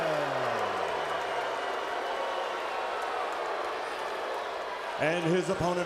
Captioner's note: crowd chatter